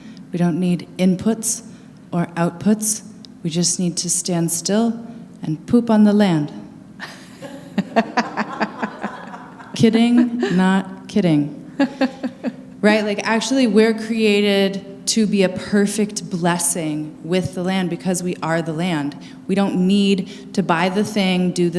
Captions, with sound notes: We don't need inputs or outputs. We just need to stand still and poop on the land. [laughter] Kidding, not kidding. Right? Like, actually, we're created to be a perfect blessing with the land because we are the land. We don't need to buy the thing, do